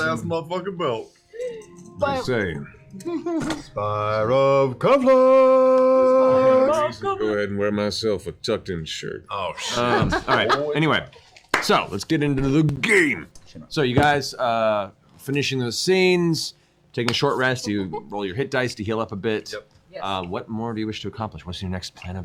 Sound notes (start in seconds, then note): 1.8 McCree voice; 3.8 Oprah voice; 7.1 McCree voice; 9.9 normal voice